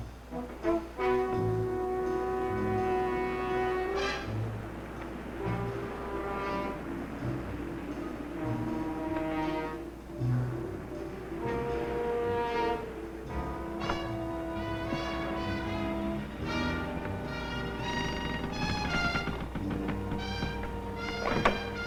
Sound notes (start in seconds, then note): 0.1 light jazzy music; 17.7 rail creaking